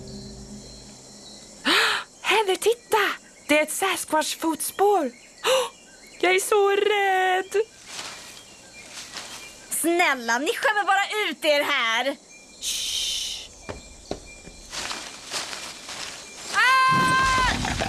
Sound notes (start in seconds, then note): 1.3 gasps